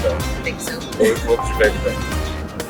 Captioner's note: laughs